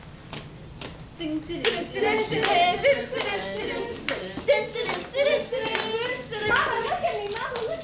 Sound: clapping; humming

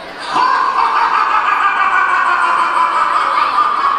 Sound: narrator laughs

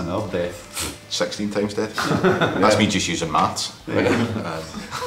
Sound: laughs

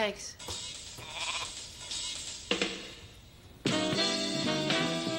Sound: goat bleating; big band music

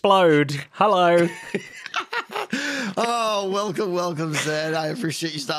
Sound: laughs

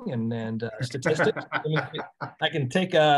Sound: laughs

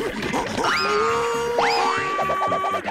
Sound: yelling

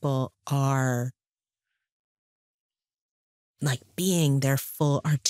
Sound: none

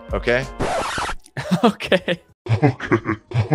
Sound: record scratching

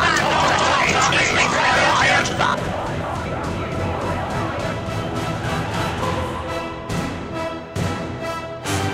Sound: Daleks Chant

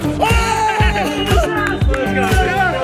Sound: players cheer

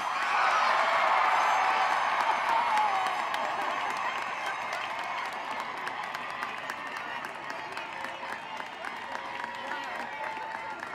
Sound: cheering and applause

